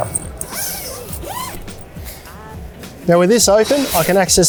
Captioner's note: zip unzipping